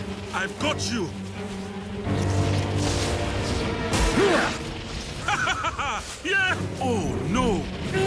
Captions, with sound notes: I've got you. [LAUGHS] Yeah! Oh no.